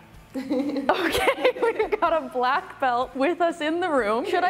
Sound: chuckles

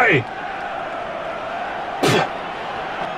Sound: spits

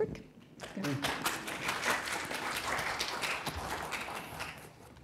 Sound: applause

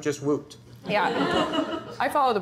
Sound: laughter

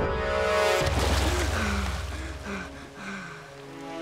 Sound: gasping

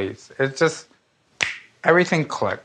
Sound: snaps fingers

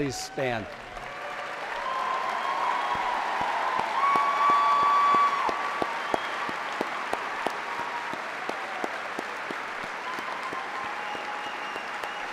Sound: applause

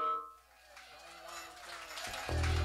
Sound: applause

